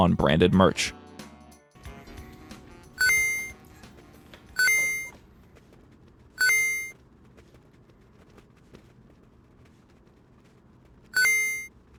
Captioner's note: dinging sounds continue